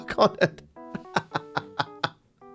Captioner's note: laughs